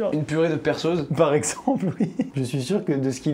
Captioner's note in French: en riant